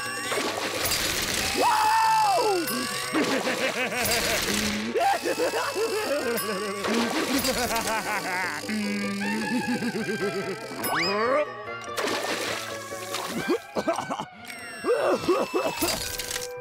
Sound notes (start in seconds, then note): 2.6 Plankton laughing; 14.8 coughing